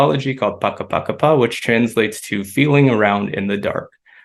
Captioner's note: non-english speech